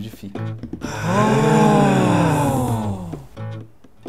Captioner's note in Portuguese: pessoas admiradas em coro